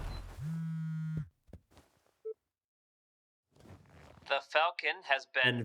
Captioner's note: phone buzzing